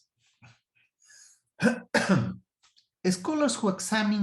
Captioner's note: coughs